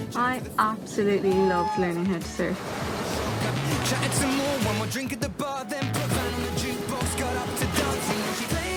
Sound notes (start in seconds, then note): 0.3 voice-over; 1.2 whooping